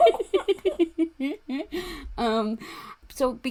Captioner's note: laughing